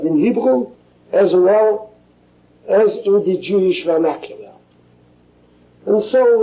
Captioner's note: Yiddish